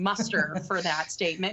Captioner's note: laughter